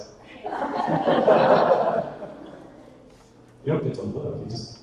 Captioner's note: audience laughter